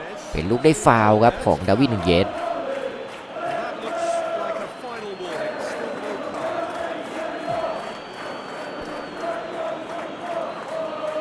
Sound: applause

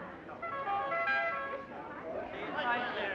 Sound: fancy car horn

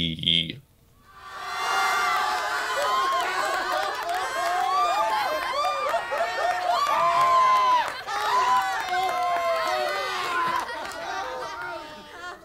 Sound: A crowd laughing sound effect plays as an outro

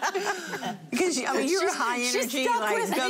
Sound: laughing

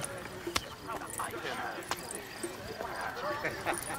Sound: static; jangling jewelry

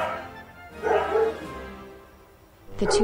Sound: dogs barking

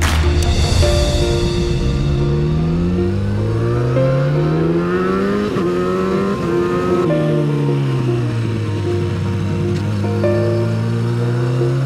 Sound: with LOTS of BLAARRRRTY Exhaust in the background

